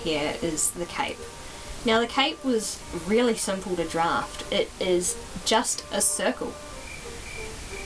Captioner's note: crickets